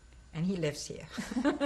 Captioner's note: laughter